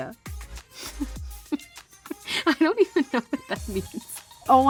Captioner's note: laughing